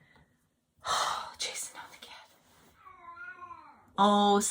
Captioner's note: exhaling loudly; Chaz meowing